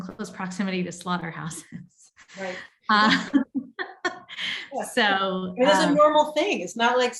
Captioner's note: laughs